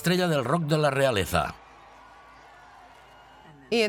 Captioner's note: people cheering